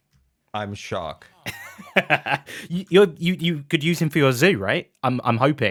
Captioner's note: laughs